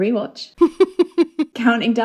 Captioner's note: laughing